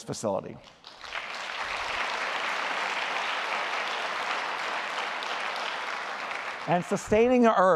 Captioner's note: applause